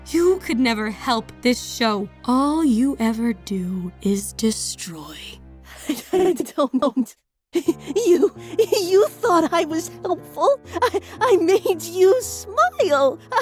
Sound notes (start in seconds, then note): 5.7 laughing, desperate